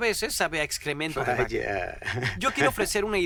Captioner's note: laughs